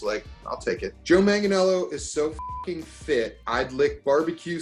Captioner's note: beep